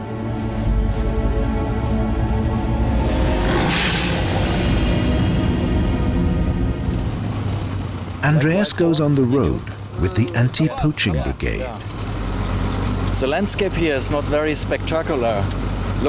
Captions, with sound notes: [growling, clattering] Andreas goes on the road with the antipoaching brigade. The landscape here is not very spectacular.